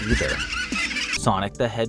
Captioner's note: creepy children's laughter